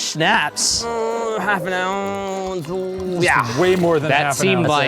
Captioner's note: groans